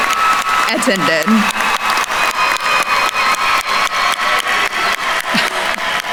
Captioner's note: attendees cheering and applauding